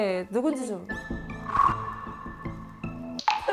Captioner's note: sound of detection